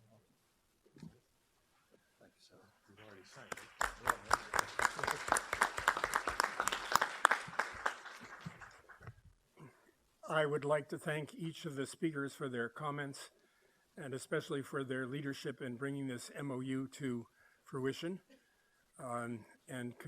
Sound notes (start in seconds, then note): 3.0 applause